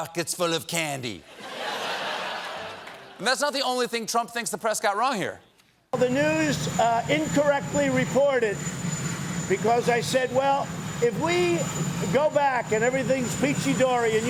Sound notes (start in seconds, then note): 1.2 laughter